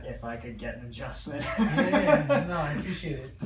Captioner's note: both laugh